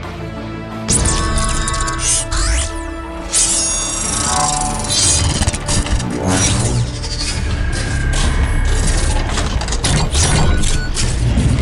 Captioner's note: mechanical Sounds